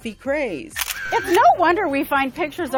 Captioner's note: camera clicking